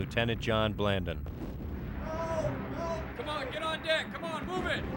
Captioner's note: men yell in distress